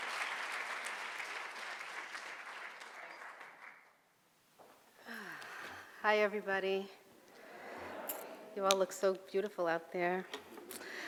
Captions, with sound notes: - Hi everybody. (audience murmurs greetings) You all look so beautiful out there.